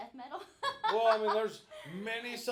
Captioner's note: laughing